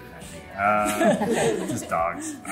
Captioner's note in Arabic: الكل يضحك